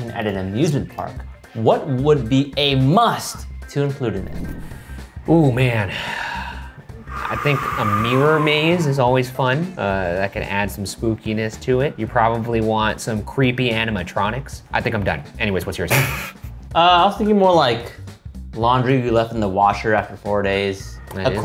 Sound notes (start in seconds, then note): 5.8 sighing; 16.4 laughing